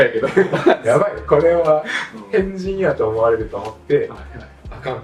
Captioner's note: laughs